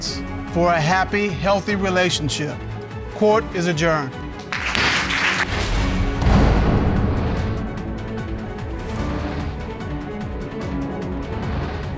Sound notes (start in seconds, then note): 4.3 bangs gavel; 4.4 audience applauding